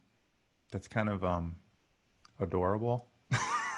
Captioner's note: chuckles